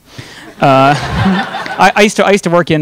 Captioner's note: audience laughing